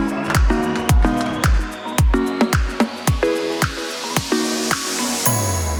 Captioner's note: audience cheers and applauds